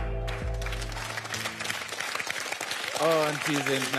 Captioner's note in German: Applaus